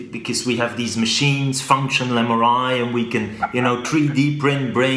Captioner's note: Sadhguru laughs